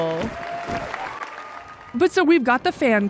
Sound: applause

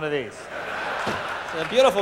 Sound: laughter

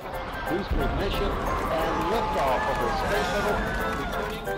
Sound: countdown and shuttle launch explosion

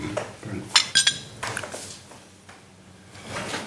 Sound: glasses clinking

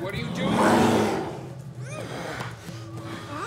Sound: snarls; muffled screaming

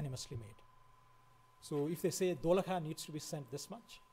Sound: foreign language

